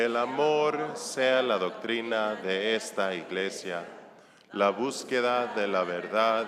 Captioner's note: congregation speaking in foreign language